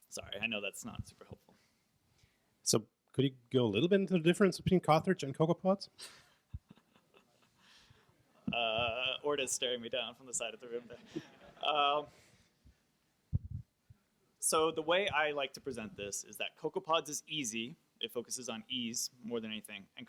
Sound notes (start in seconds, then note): 2.7 voiceover; 6.5 chuckling